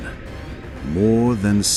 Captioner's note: deep, echoing tone